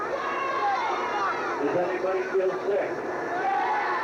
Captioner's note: people cheer